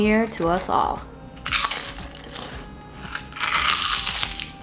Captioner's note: chips crunching